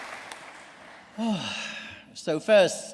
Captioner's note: sighs